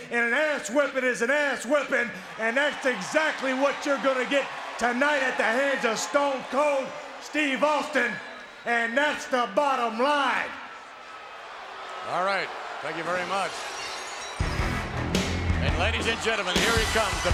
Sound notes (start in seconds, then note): 11.1 crowd cheering; 14.4 hard rock music